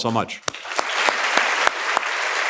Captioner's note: applause